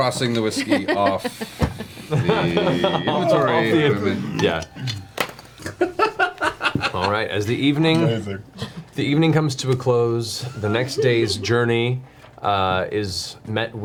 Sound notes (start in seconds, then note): 5.6 laughs